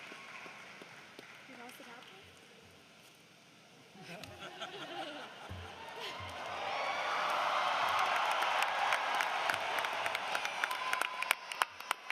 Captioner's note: cheering and applause